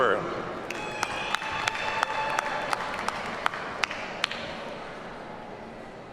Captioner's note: audience cheers and applauds